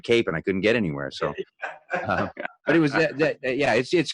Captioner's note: laughs